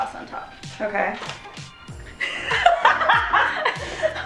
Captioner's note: laughing